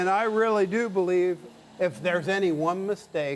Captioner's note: machine powering off